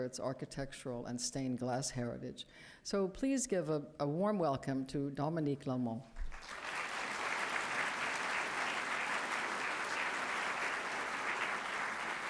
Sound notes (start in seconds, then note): 6.2 applause